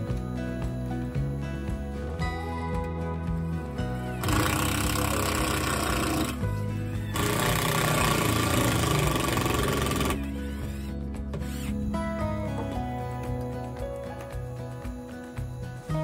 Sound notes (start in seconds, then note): 2.8 electric drill sound